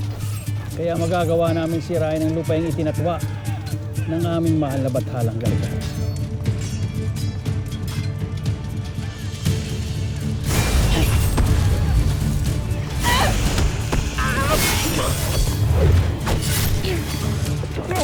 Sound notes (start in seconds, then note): 6.0 tense music playing; 6.0 weapons clanging & swishing; 10.4 weapon blast; 12.9 grunts; 12.9 weapon blast; 13.8 grunts & groans; 13.8 sword swishes; 17.8 groans; 17.8 thuds